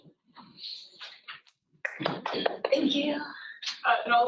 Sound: clapping

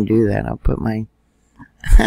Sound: laughing

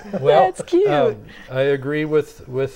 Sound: laughing

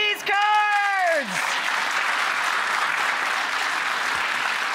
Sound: audience applauding

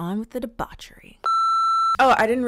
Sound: beep

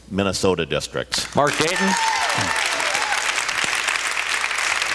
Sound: cheers, applause

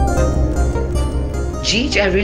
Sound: mouthing

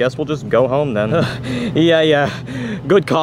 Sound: Luigi breathes a sigh of relief

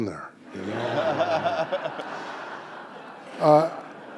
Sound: audience laughing

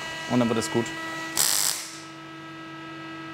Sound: machine whirring

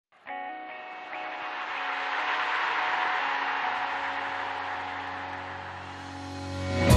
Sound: cheering crowd

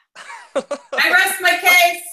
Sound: laughing

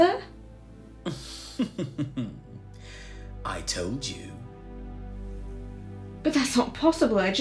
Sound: Lord Hastings sinister laugh

